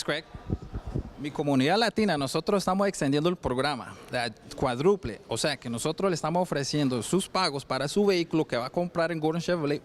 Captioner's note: foreign language